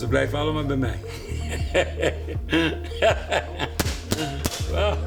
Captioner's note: laughs